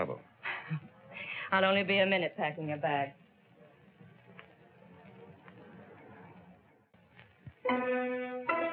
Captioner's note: laughs